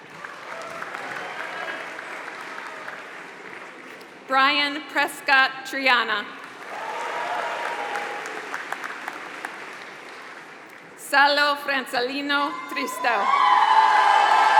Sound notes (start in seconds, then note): 0.0 applause; 6.3 applause; 13.2 applause